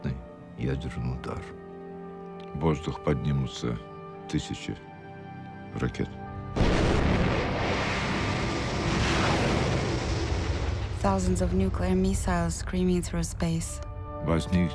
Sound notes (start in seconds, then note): 6.6 missiles roaring